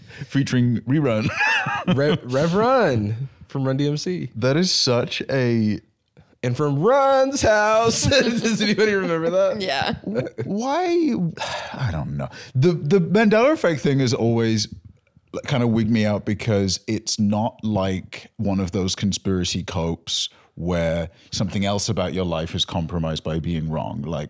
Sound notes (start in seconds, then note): 11.3 sighs